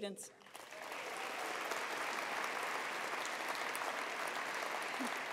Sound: attendees applauding

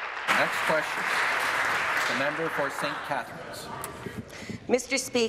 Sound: applause

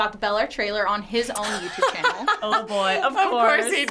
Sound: laughs

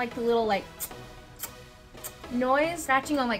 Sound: lip smacking

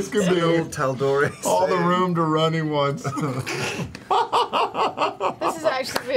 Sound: laughs

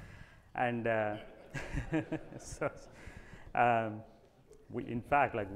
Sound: audience laughing

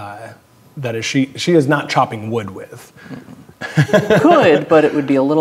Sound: laughs

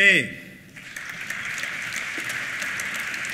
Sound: applause

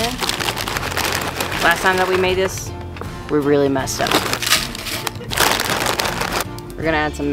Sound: laugh

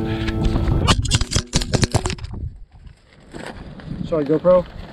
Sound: GoPro thumping

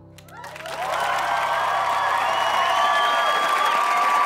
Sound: crowd cheers and whistles

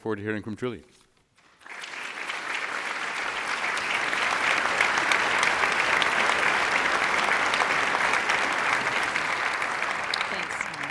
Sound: applause

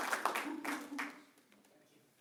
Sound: cheering; applause

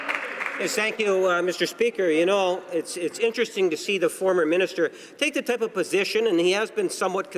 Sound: applause

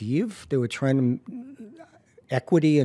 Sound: stammers

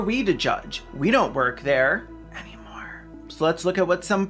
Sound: whispers

